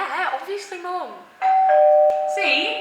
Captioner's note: doorbell rings